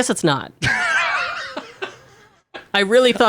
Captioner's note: laughs